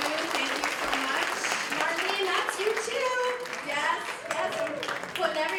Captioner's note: applause